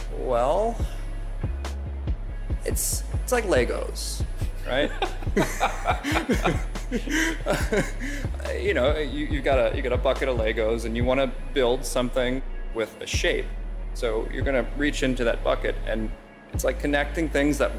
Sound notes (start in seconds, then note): 4.4 laughs